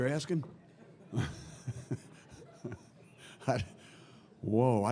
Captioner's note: laughter